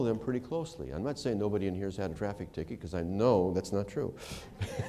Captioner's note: laughter